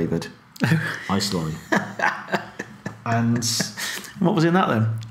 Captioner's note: laughing